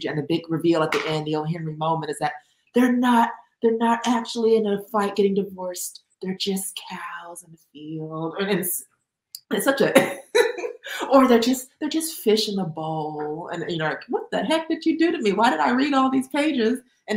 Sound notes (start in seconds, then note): 10.2 laughs